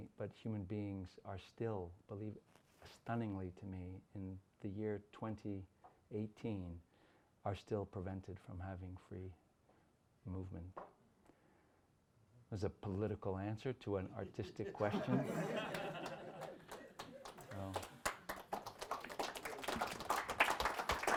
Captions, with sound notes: but human beings are still believed, stunningly to me in the year 2018, are still prevented from having free movement. As a political answer to an artistic question. (audience laughs) (audience applauds)